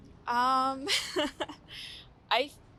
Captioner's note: laugh